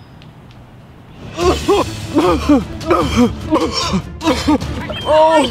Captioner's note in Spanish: tosiendo